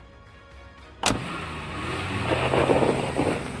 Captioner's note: door Slams; engine Revs